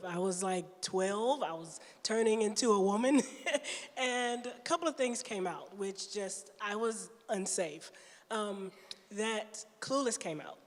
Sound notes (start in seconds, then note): 3.3 chuckles